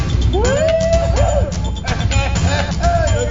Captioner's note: hooting